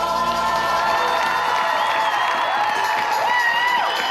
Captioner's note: all cheering